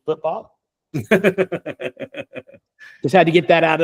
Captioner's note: laughing